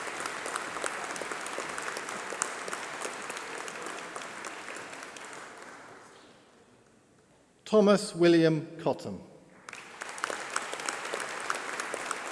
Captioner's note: applause